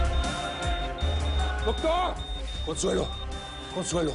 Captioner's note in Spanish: Bips acelerados; Sonido continuo del monitor